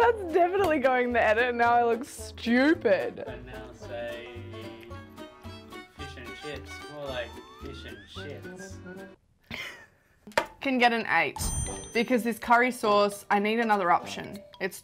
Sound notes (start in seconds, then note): 9.5 laughing